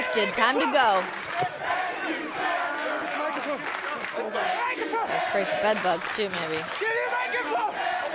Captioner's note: fans chanting